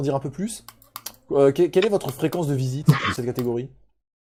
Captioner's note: laugh